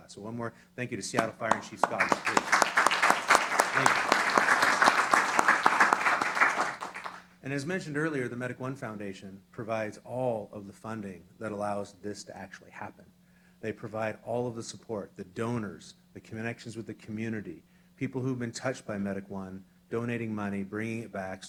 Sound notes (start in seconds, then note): 4.3 applause